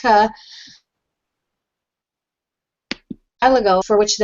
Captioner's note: audio cuts